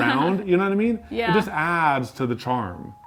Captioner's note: laughing